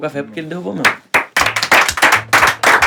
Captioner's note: aplausos